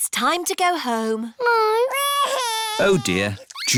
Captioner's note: crying